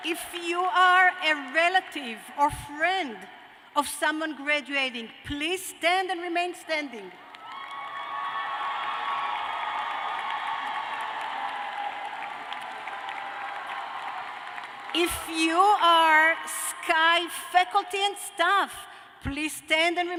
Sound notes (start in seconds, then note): 0.1 cheers and applause; 7.2 cheers and applause